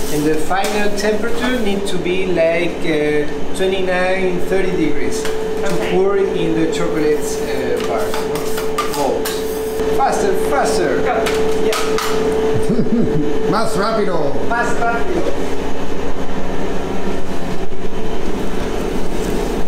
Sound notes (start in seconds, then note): 12.5 chuckles